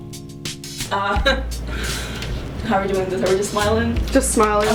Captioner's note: chuckles